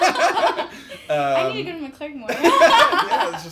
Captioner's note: laugh